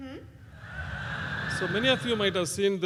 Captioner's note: laugh